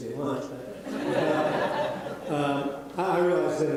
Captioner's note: audience laughing